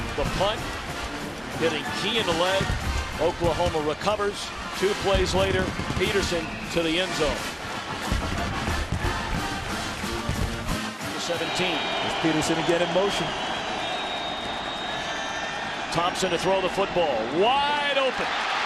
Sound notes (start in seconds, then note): 7.8 pep band music; 13.2 crowd cheering